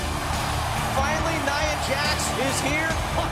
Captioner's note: cheers & applause